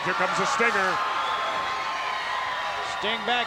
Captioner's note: crowd cheers